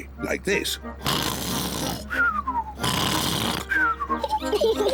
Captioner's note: snores loudly; both giggle